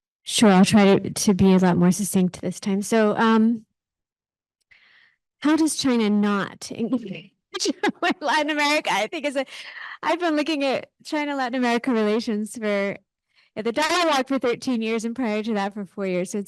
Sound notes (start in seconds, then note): 7.5 laughing